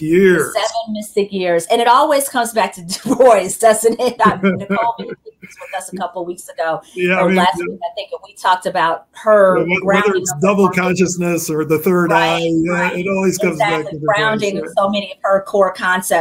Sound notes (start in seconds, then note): 4.1 chuckle